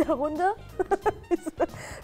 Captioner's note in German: Lachen